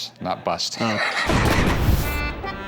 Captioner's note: laughs